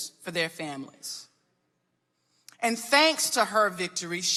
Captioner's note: none